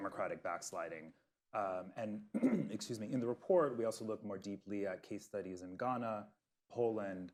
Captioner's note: coughs